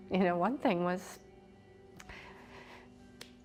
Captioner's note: breathes shakily